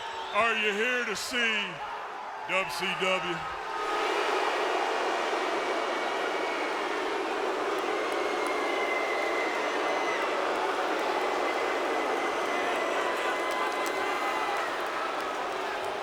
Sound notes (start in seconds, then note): 4.1 crowd boos